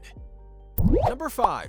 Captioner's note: bubble popping sound